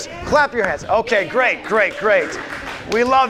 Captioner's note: audience applauds